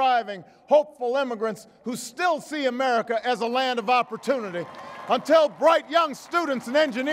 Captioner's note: applause